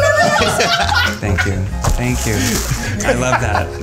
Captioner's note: all laughing